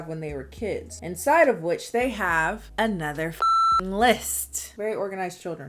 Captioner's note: beep